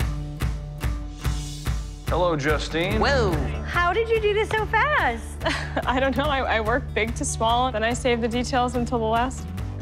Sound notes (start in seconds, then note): 5.4 chuckles